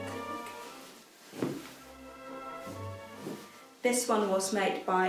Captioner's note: fabric thumping